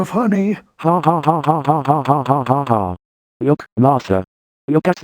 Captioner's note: L&H Martin laughing